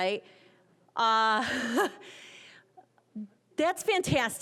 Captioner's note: laughing